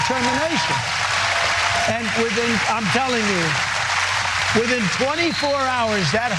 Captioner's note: applause